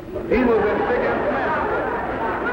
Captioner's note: audience laughing